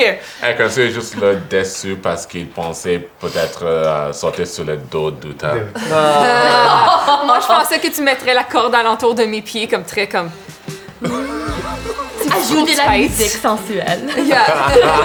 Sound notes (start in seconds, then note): 5.7 laughter; 10.2 sexy music; 10.9 laughs